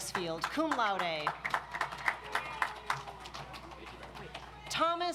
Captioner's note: audience applauds